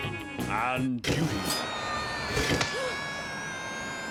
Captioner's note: Owen screaming